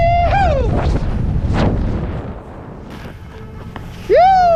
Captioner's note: howling; wind blustering; howling